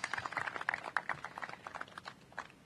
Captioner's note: applause